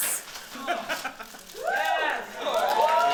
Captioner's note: chuckling